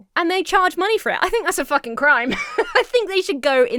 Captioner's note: Emma laughs